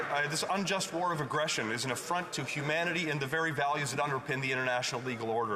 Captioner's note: applause